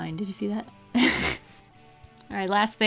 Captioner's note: laughs